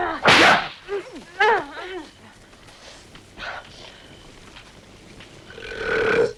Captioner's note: Torente laughing; women grunting; whip cracks; Torente belches